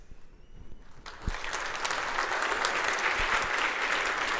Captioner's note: applause